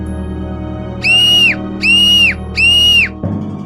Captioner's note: screaming in pain